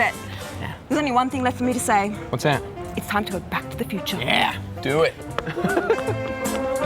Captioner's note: laughing